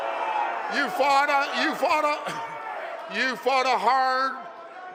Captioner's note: crowd jeers